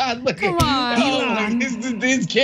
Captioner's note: laugh